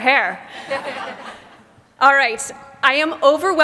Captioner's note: laughter